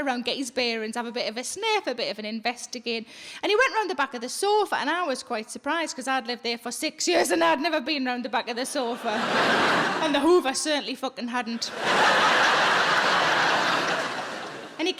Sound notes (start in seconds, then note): 8.8 audience laughing; 11.6 audience laughing